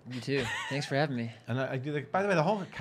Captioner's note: laughing